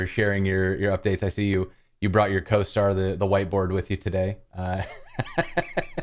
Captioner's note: laughter